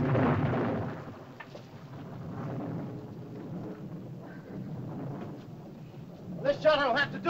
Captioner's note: thunder rumbles softly